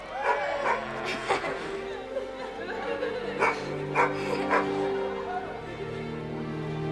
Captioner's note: people cheering; Bob barking